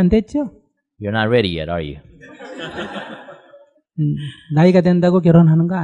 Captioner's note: audience Laughter